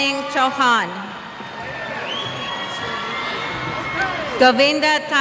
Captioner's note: cheers